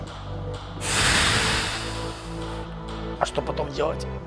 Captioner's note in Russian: Выдох